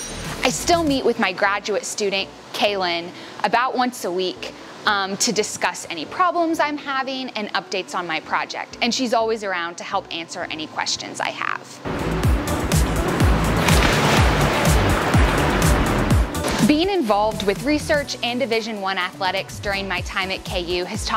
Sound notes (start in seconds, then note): 11.8 upbeat music playing; 12.6 sound of water splashing